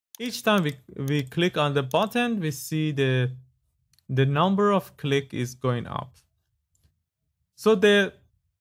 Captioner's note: click